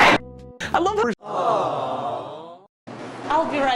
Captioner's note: awwwwwww